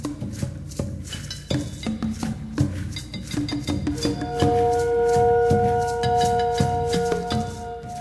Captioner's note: tribal drums; horn in distance